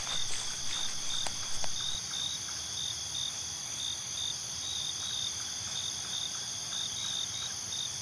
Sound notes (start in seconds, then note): 5.9 crickets